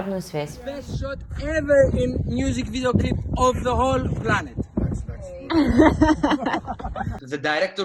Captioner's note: indistinct chatting